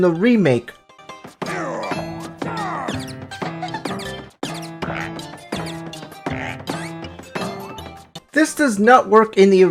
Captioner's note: game sound